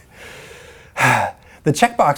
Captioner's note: sighs